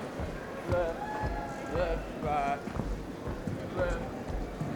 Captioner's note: crowd chatting